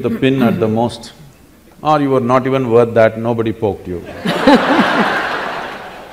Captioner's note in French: rire